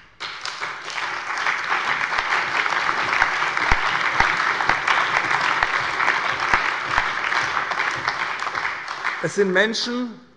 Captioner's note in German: Allgemeiner Beifall